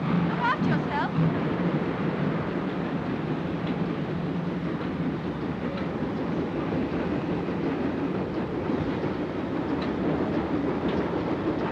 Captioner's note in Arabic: هدير القطار